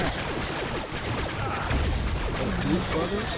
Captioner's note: gun shots